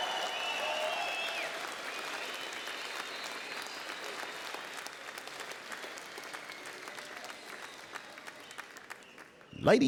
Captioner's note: cheers and Applause